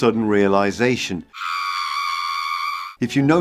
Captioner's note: scream